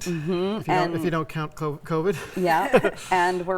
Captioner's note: laughs